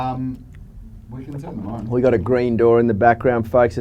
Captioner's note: laughs